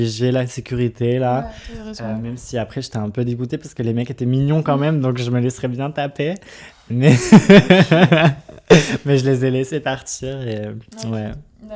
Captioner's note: laughs